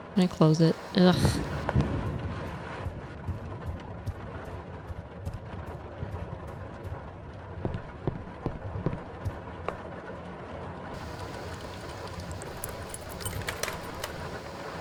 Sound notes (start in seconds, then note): 1.6 thunderstorm continues; 12.7 door unlocks